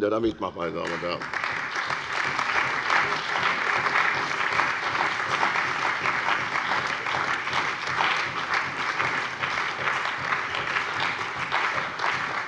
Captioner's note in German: Beifall bei der CDU und dem BÜNDNIS 90/DIE GRÜNEN